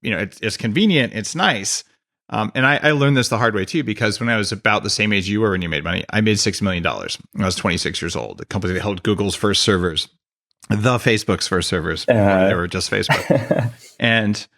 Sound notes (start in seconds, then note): 13.1 laughs